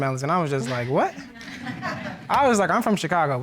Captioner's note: audience laughing